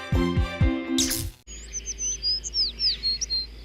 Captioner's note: birds chirping